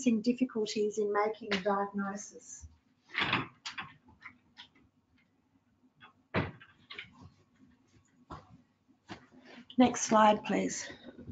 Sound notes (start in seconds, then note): 3.1 objects clattering